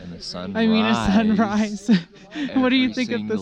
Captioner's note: laughing